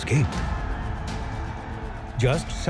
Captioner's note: gunshots